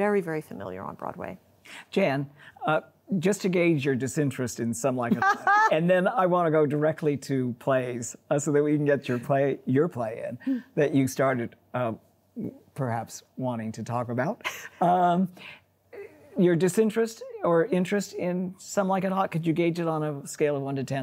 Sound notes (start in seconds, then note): 7.5 laughs